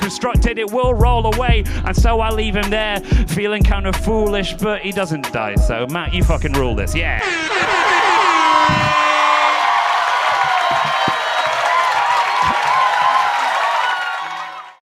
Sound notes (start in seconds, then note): 7.2 loud horn 3x